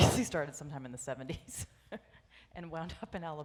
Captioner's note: laughs